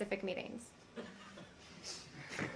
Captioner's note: laughter